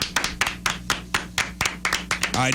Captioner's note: clapping